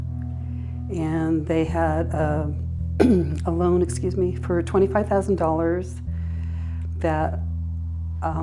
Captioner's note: clears throat